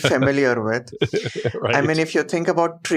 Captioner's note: laughs